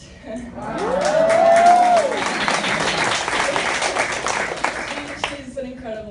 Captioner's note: applause